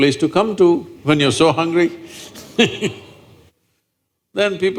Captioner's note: laughs